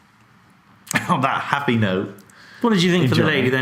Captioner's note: laughs